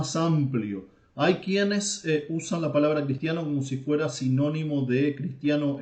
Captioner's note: in Spanish